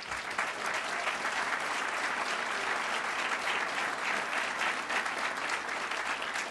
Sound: applause

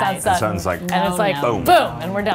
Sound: finger snapping

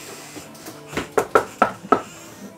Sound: knocking on door

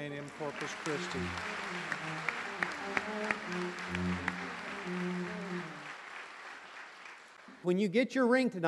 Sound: applause

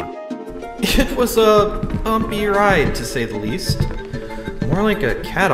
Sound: footsteps on wood

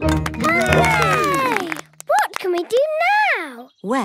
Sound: all cheer

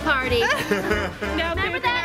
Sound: laughs

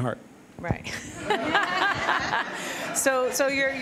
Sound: laughter

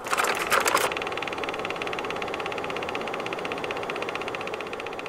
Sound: projector rolling

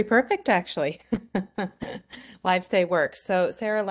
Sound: laughs

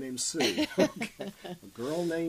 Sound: both laugh

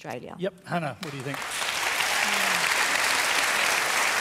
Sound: applause

